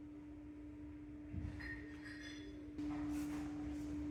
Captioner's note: none